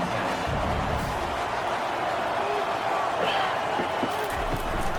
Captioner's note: crowd Noises